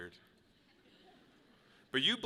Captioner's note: people chuckle